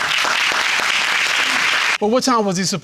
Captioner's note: applause